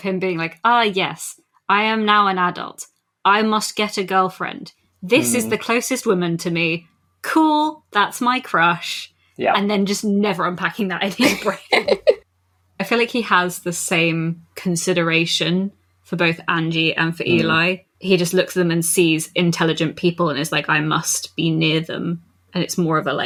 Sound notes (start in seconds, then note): 11.2 laughs